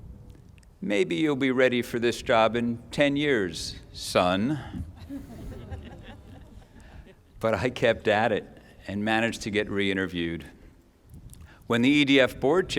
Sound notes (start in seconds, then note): 4.8 laughter